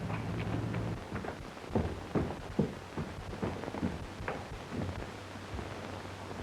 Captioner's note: feet stomping